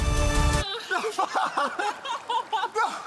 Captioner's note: laughs